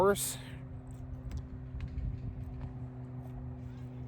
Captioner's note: none